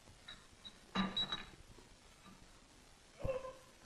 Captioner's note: glass clinks